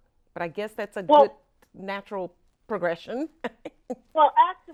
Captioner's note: laughs